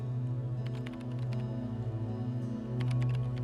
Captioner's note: typing